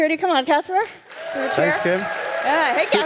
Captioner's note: audience applauding